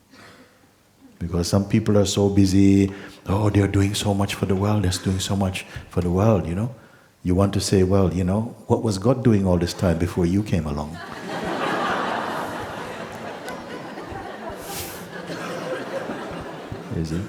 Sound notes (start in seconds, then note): 10.9 laughter; 14.6 laughs